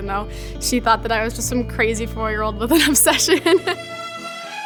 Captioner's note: upbeat violin music; laughs